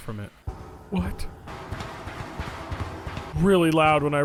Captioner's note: footsteps clanging